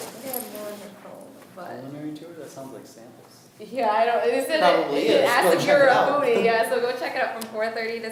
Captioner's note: students talking